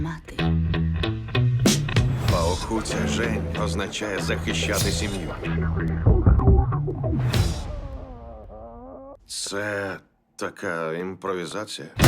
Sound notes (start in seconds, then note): 7.2 muffled growling